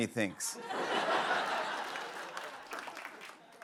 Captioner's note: laughter